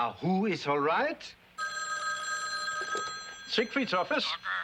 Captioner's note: phone rings